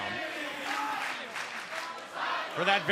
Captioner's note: fans chanting